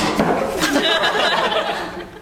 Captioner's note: laugh